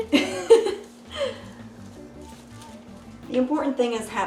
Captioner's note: laughs